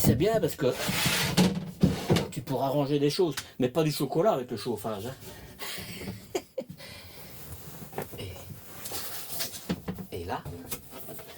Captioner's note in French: rires